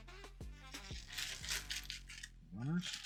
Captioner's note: paper crinkling